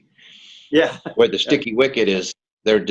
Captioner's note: laughs